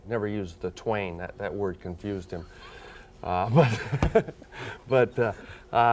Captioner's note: laughs